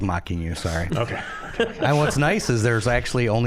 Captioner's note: all laughing